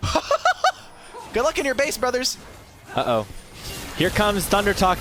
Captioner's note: laughter